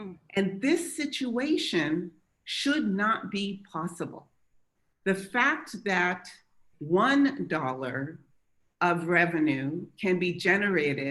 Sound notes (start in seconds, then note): none